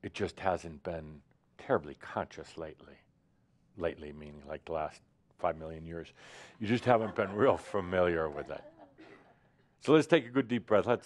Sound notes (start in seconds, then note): 6.7 some chuckles